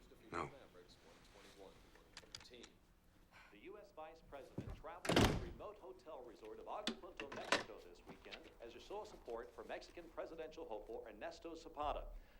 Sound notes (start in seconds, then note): 3.2 man on TV